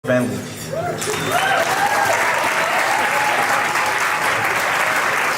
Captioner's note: crowd clapping and cheering